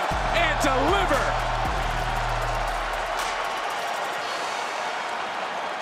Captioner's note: cheers